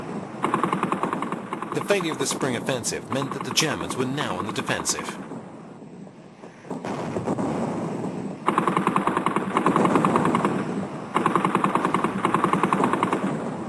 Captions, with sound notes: The failure of the spring offensive meant that the Germans were now on the defensive. [heavy artillery booming] [guns blasting]